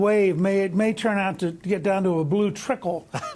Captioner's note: laughter